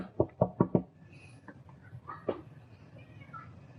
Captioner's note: knocking